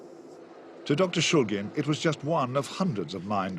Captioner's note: voiceover